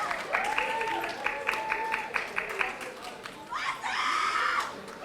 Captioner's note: audience applauding